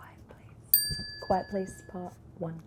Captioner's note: bell dinging